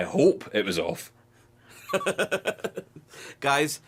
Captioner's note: laughing